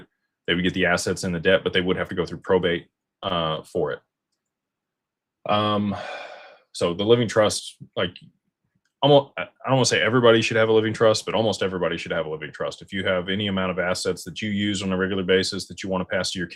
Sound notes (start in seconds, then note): 5.8 sighs and gasps